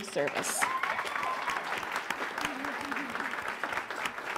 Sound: applause

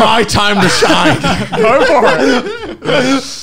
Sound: laughing loudly

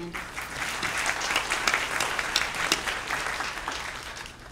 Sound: applause

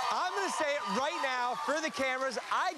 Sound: cheers and applause

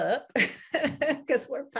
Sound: chuckles

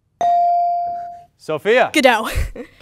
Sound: ding

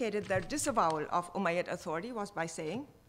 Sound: speaking foreign language

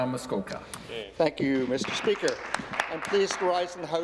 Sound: applause

